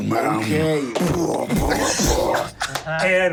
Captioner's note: groans